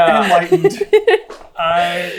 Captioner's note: laughter